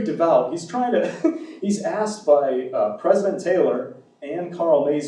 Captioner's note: laughs